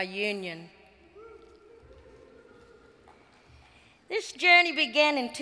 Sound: audience cheers

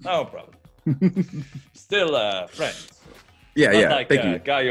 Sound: laugh

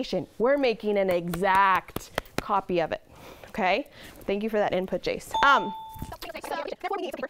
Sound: ding

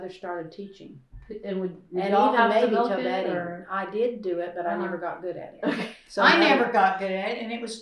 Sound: laughter

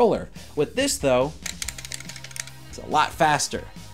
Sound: clickclickclickclickclickclickclickclickclickclickclickclick

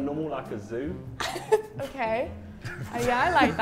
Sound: laughs

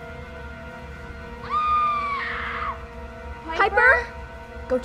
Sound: Piper screams

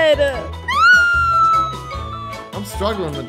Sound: screaming

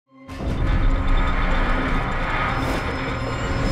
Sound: creaking

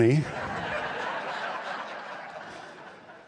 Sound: laughter

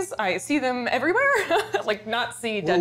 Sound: laughs

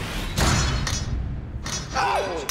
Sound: shout

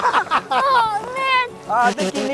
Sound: both laughing; spitting

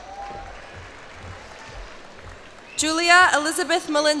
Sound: cheers and applause

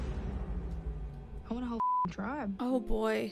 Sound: beeps

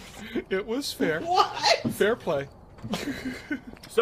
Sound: laughing

